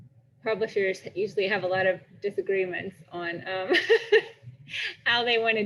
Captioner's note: laughs